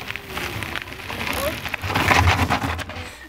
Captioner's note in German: Steine knirschen